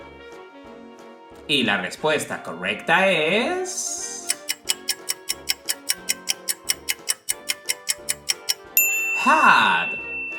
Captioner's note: clock ticking sound